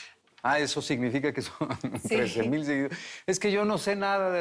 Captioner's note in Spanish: Riendo